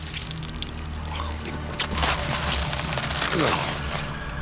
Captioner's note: squelching; gulping, groaning